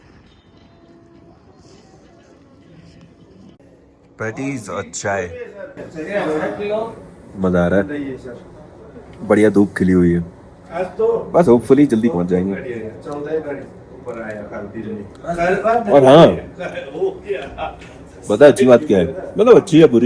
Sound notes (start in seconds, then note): 5.2 puffs; 14.1 background conversations